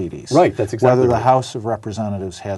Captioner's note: multiple voices speaking